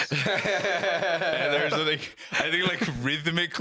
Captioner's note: laugh